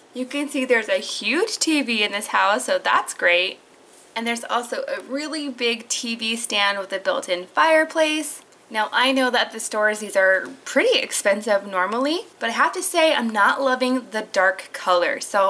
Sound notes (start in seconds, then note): none